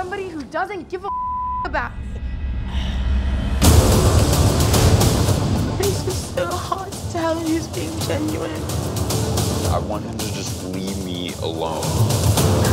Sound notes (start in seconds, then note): 1.0 beep; 3.1 sighing; 12.5 laughing